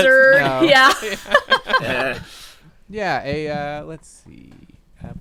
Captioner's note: chuckling